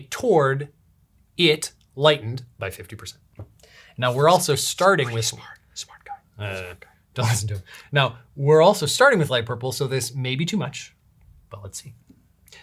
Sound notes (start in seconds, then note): 5.2 whispering